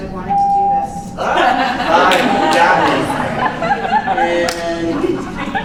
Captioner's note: laughs